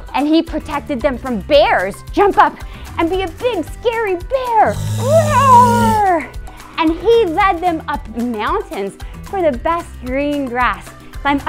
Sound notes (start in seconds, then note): 4.6 bear growling